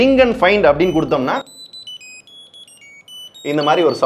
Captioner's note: beep sound